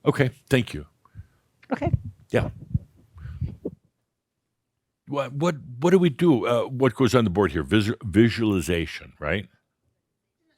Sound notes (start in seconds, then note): none